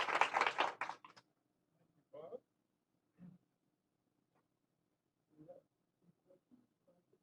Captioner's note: applause